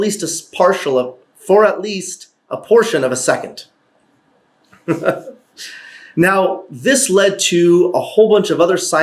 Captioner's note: chuckle